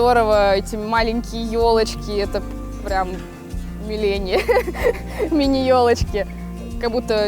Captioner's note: laugh